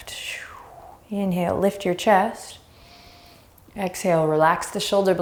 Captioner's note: deep breathing; deep breath